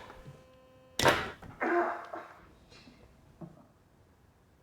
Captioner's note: grunting